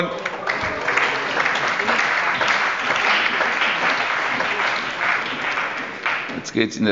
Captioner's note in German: Allgemeiner Beifall